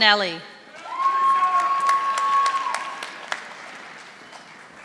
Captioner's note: audience applauding